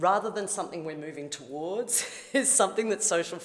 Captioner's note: chuckles